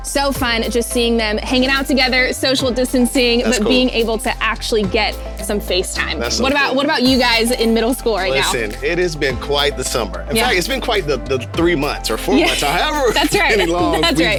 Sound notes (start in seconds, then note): 8.3 laughs